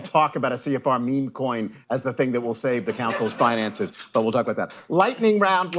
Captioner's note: laughter